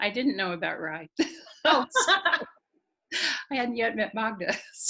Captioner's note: laughing